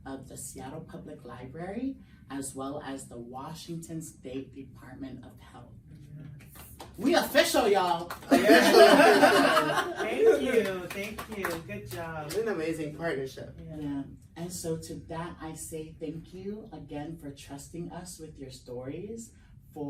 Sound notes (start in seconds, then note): 6.7 everyone claps; 8.2 laughs